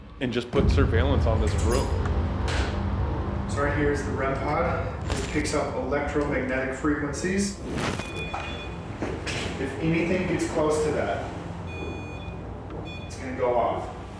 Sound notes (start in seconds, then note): 11.5 beeping